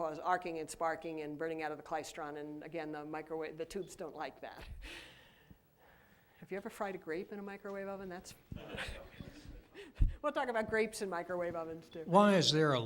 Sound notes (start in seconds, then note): 8.6 laughter